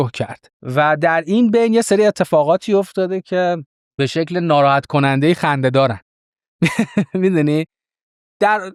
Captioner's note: laughs